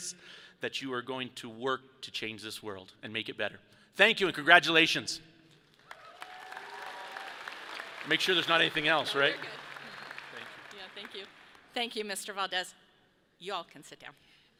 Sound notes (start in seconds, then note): 5.8 audience applauds; 5.8 people cheer